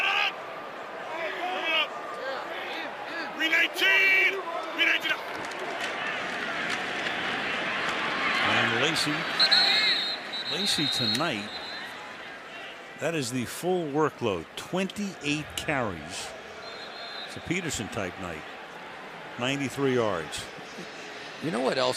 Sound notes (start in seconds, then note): 9.2 whistle blows; 16.6 whistle blows